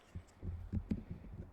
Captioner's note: footsteps